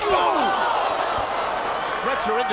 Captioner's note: commentators exclaim